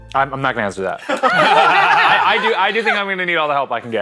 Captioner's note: all laughing